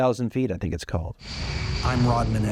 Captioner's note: jet whirring